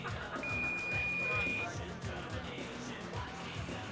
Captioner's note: beeping